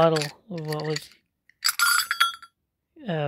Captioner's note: clank